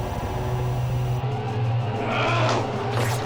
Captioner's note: soldier shouts